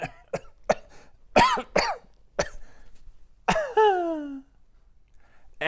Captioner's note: coughing